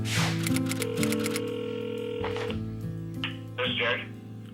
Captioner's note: phone rings